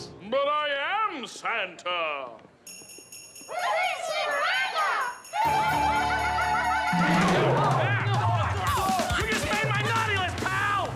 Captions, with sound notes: But I am Santa! We're here to see Miranda! [giggling] [grunting] You just made my naughty list, pal!